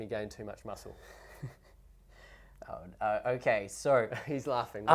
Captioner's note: laughs